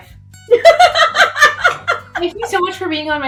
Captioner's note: laughs